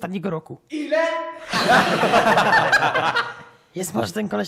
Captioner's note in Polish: śmiech